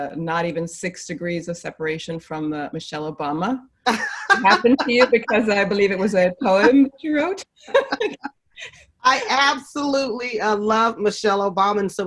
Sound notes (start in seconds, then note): 3.8 laughing; 7.6 both laughing